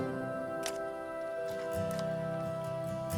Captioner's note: camera shutter clicks